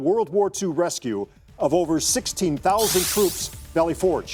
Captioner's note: digital sound effect